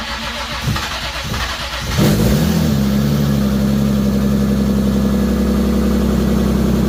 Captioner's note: engine starts!